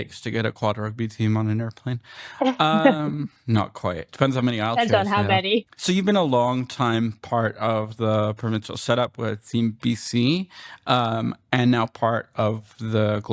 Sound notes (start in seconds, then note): 2.7 laughter